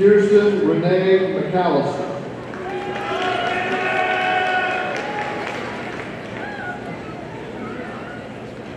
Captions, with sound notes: Kirsten Rene McAllister, (audience cheering)